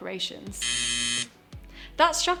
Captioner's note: buzzer buzzing